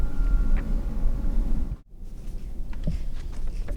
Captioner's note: paper rustles